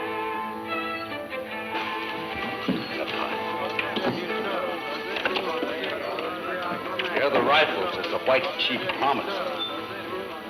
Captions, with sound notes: (people chattering) - Here are the rifles as the white chief promised.